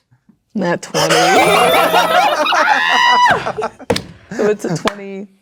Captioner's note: players laughing; players celebrating; triumphant beeping sound